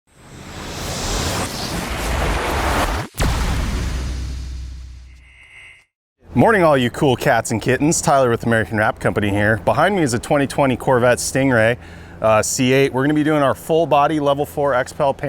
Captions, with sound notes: (whooshing sound) - Morning, all your cool cats and kittens, Tyler with American Wrap Company here behind me is a 2020 Corvette stingray CA. We're going to be doing our full body level four X Pell